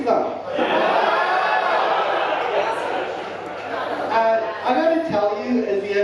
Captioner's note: audience laughing and cheering